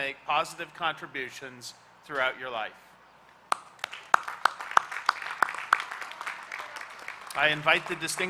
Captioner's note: applause